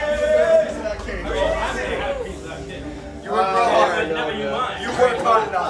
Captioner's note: group cheering; group chattering